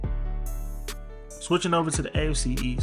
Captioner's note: voiceover